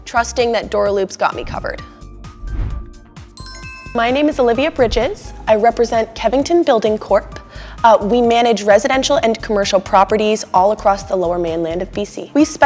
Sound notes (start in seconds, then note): 2.4 transition wooshes; 3.4 bell dings